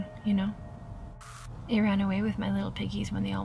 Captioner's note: static crackles